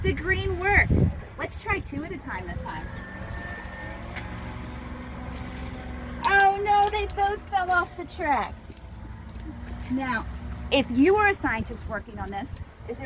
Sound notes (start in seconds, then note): 6.2 marbles clanking